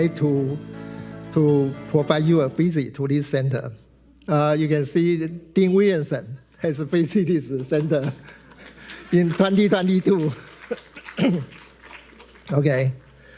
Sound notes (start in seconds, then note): 11.0 clears throat; 11.4 attendees applauding